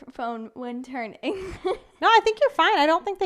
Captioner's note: giggles